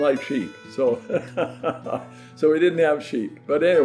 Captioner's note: laughs